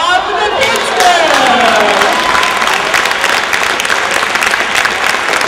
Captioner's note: applause